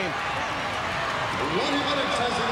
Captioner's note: crowd cheering